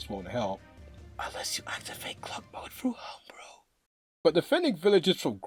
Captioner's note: whispers